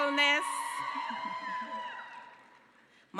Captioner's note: cheering